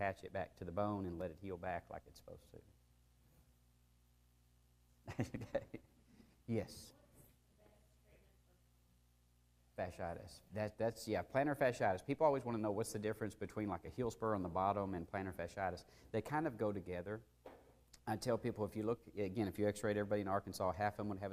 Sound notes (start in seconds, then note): 5.0 laughter